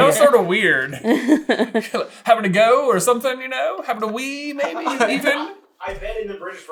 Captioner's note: laughing